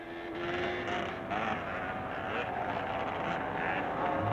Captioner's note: bike engines revving